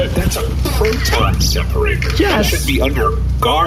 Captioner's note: terrified